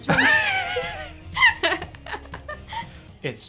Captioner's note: both laughing